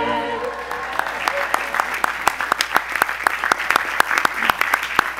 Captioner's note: audience applause